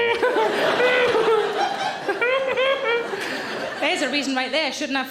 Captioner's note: audience laughing